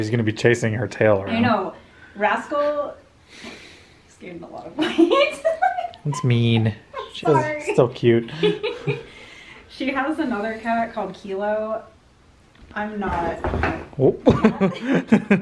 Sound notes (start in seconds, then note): 13.1 thud